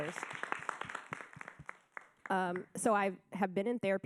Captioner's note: audience applauding